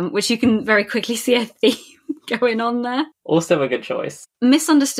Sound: laughing

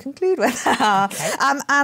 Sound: laughs

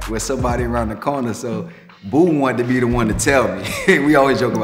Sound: laughs

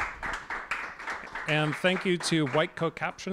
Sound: applause

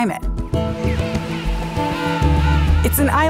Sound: penguins squealing

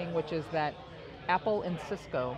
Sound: none

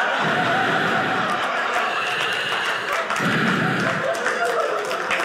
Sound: breathing; audience laughing

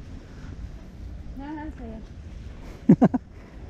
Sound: laugh

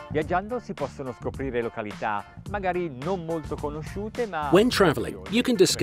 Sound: speaking in foreign language

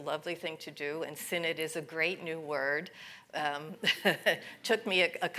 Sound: laughs

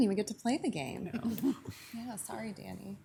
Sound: council members laugh

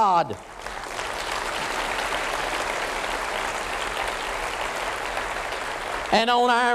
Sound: applause

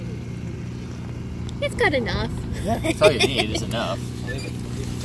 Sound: laughs

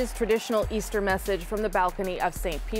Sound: cheers and Applause

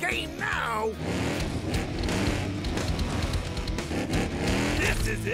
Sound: revving engines

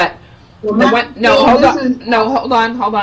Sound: woman speaking in the background

